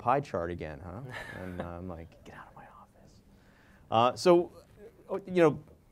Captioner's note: laugh